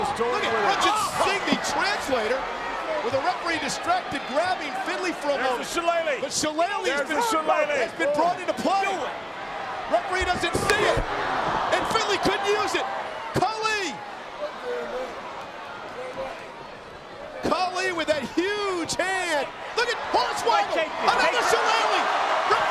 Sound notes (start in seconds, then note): 10.8 hand slaps; 14.5 crowd shout